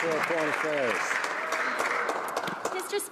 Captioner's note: some Applause